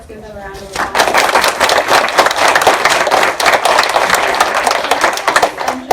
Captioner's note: applause